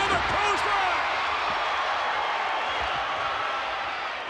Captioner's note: crowd cheers